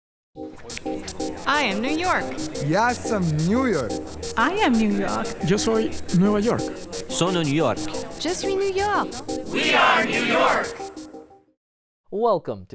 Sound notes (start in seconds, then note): 7.2 Spanish; 9.8 French